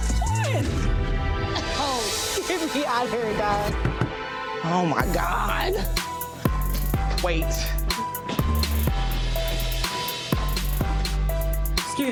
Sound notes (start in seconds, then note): 3.8 knocking on door; 8.1 upbeat trap music